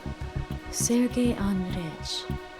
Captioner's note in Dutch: spreekt in een vreemde taal